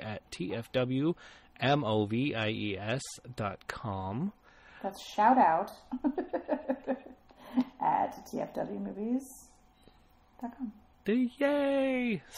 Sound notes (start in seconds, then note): 5.9 laughs